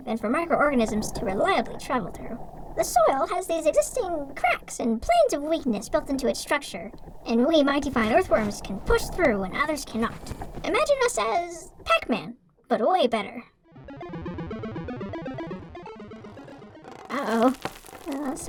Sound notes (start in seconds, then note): 13.7 video game sound effects